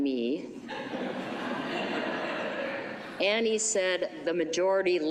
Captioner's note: laughter